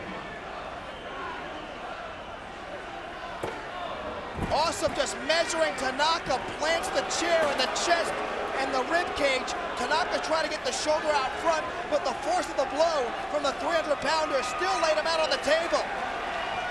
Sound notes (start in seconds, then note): 4.2 chair clunks